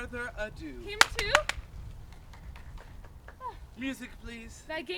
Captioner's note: Merry claps